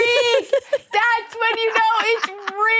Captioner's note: Vic laughing